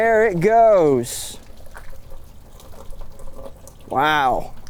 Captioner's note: water washing